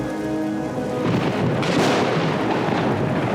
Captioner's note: thunder crashing